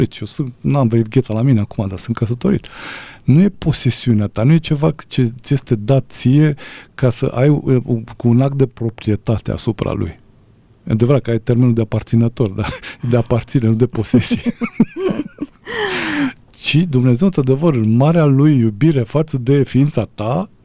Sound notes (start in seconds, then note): 14.0 laughter; 15.6 gasp